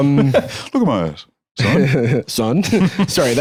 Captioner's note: laughs